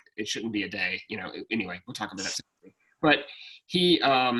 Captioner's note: speaking faintly